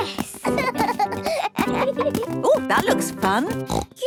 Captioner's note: both laugh